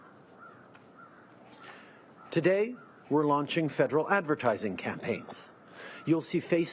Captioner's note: speaking in French